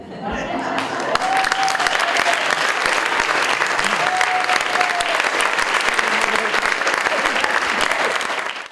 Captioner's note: audience Applauding